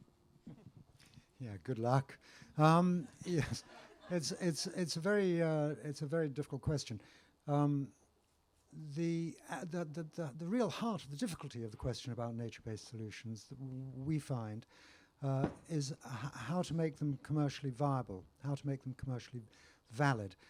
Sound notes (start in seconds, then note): 3.3 laughter